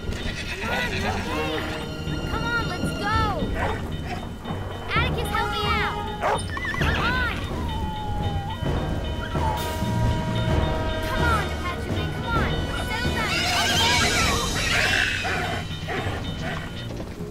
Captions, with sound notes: Come on, you're okay. Come on, let's go. Atticus, help me out. Come on. [puppy whimpering] [whistle blaring] Come on, Apache Wind, come on! Settle down. You're okay. [whinnies] [screams]